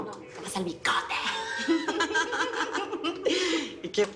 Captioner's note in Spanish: Risas